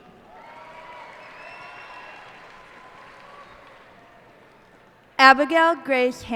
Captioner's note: cheers and applause